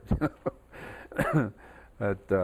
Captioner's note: laughs